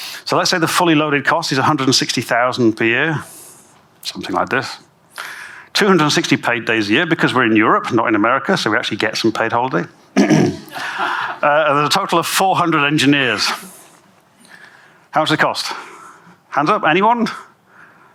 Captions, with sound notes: So, let's say the fully-loaded cost is 160,000 per year, something like this. 260 paid days a year because we're in Europe, not in America, - so we actually get some paid holiday. [clears throat] [audience laughs] There's a total of 400 engineers. How much does it cost? Hands up, anyone?